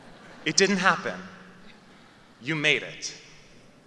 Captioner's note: laughter